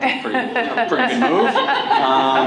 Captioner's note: laughter